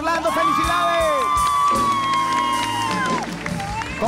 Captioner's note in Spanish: Aplausos